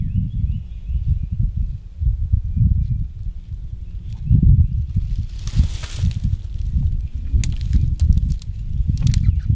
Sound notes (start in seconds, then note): 5.0 leaves crunch